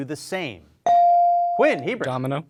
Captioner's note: bell rings